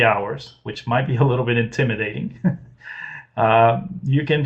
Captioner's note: laughs